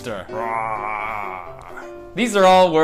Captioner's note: growls